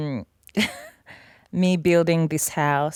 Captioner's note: laughs